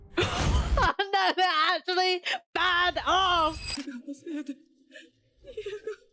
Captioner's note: laughs in excitement